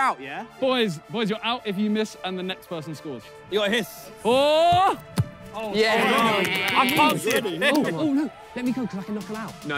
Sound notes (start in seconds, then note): 5.7 players exclaim; 5.7 player yells